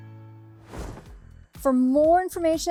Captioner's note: screen whooshing